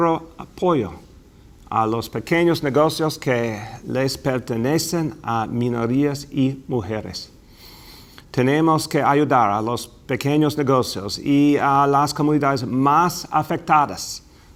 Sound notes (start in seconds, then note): 3.1 easpking foriegn language